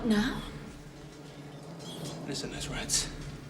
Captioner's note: squeaking